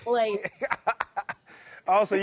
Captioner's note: laughing